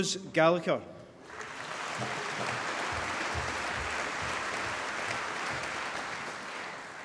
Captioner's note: applause